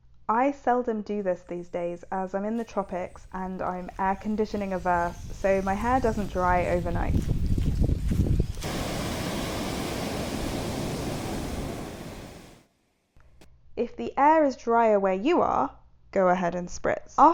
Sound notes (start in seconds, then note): 8.6 nature sounds